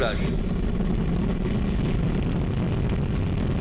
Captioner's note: rocket engines blasting